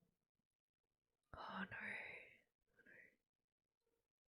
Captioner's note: whispers